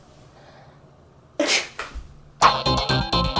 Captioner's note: laughs; intro music